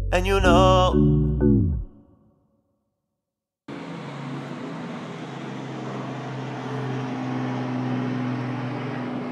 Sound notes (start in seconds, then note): 1.9 song ends; 3.7 airplane flies overhead